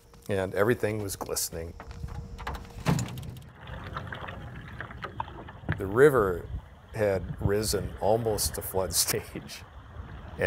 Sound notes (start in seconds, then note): 1.8 bag clunking; 4.2 water trickling